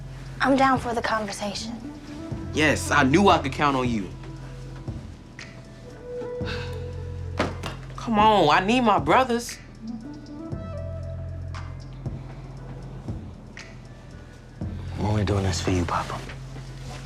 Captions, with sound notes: - I'm down for the conversation. - Yes, I knew I could count on you. (exhales sharply) Come on, I need my brothers. (gentle music continues) - I'm only doing this for you, Papa.